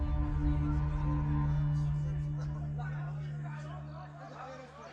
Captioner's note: distant people yelling; suspenseful music continues